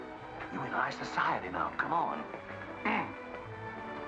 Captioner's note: clears throat